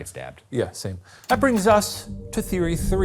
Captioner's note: projector clicking; screen whooshing